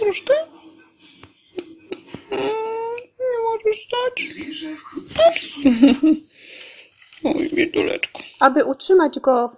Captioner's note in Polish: śmiech